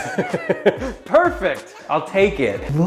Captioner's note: laughing